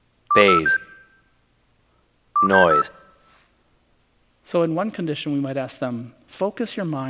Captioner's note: playing recording